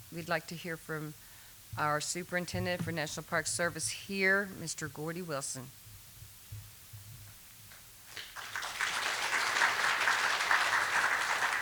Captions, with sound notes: we'd like to hear from our superintendent for National Park Service here, Mr. Gordie Wilson. (applause)